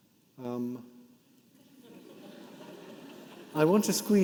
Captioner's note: audience laughing